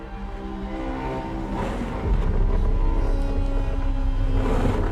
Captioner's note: scraping